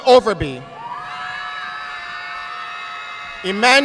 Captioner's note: audience applauding